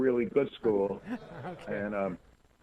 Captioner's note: laugh